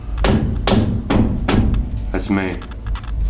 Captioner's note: loud banging